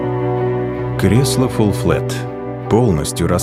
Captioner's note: voice-over